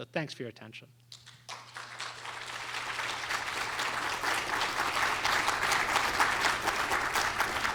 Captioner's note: applause